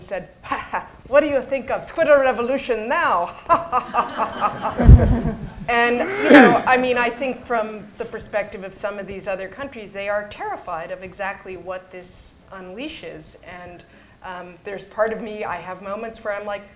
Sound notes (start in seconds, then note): 3.4 laughter